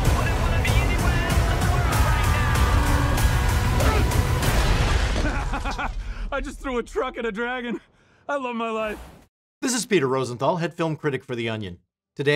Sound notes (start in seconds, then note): 3.7 grunting; 4.2 train smashing; 5.2 laughs